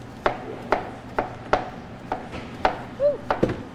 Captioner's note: object thudding